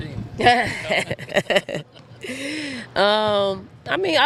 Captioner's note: both laughing